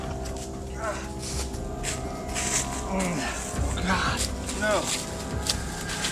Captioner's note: shuffling in leaves